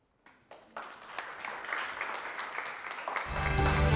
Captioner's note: audience applauds; upbeat music